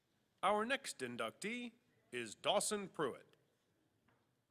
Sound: voiceover

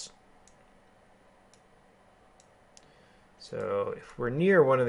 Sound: keyboarding

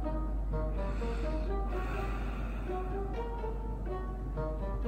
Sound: big breath through noise

